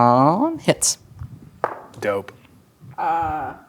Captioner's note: dice rolling